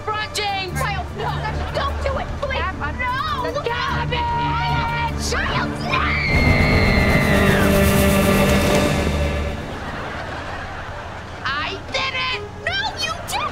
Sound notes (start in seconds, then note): 5.8 screaming